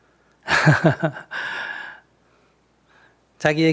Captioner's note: Sunim Laughter